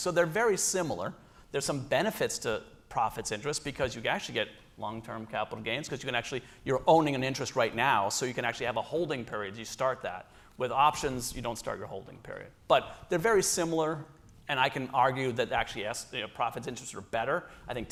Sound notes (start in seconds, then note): none